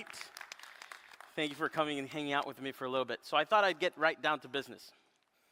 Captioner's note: applause